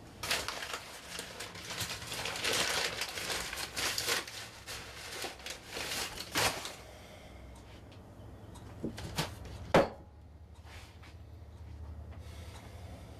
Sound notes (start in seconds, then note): 0.2 rustling; 9.4 thumping